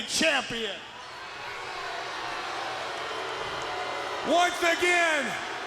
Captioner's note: audience booing